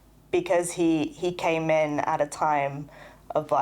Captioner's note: none